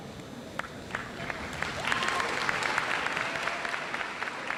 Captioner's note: audience applauds